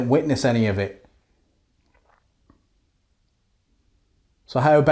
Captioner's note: silence